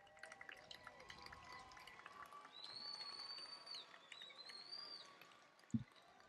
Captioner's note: applause and cheering